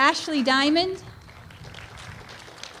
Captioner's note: applause